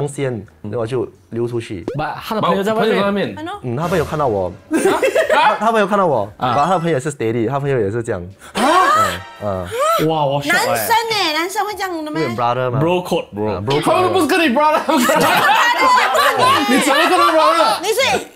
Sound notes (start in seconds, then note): 8.0 gasps; 14.9 laughs